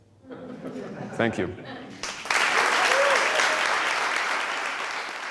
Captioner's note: laughter and applause